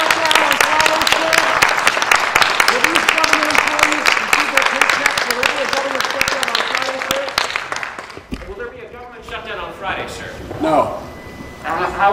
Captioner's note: applause